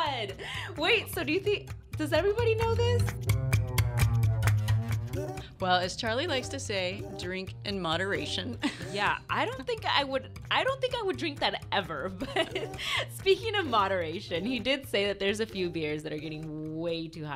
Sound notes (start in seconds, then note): 0.0 laughs; 0.0 music fades in; 8.6 laughs; 12.1 laughs